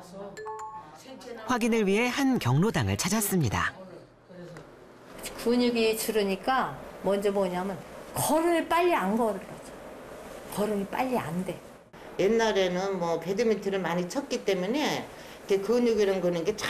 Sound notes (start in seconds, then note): 3.2 voiceover